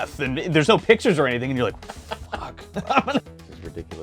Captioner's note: giggling